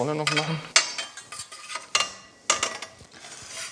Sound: metal clatter

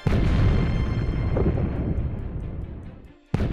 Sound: loud booms

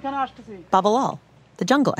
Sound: voice returns

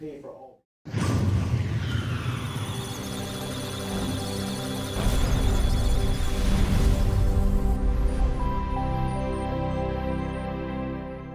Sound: musical Tones; electronic Sounds of Data

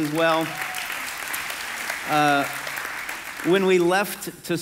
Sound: congregation clapping

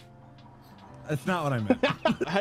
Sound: laughter

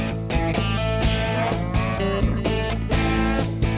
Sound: bright upbeat music; cow mooing; bright upbeat music

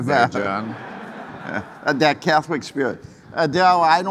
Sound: audience laughing

